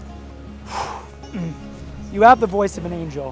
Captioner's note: exhale